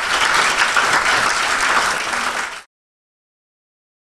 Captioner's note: applause